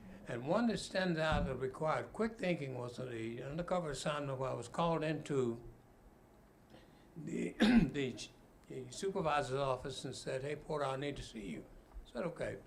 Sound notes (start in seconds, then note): 7.6 clears throat